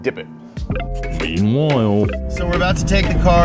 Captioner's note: voiceover